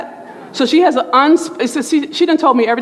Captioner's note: murmurs